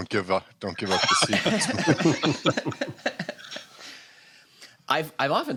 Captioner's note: laughter